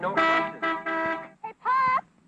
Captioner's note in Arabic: صوت التزمير